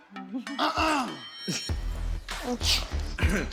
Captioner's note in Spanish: Mikey carraspea; Danny carraspea